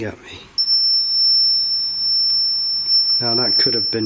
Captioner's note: beeping